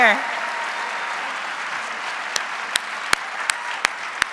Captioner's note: audience cheering